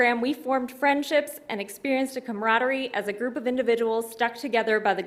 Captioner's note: none